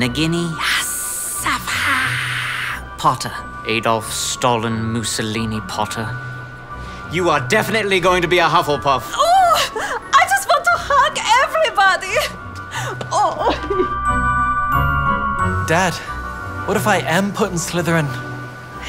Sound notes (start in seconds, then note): 0.8 parseltongue noises; 10.3 German accent